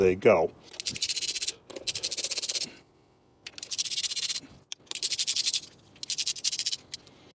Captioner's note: ratchet Noise